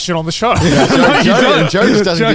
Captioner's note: all laughing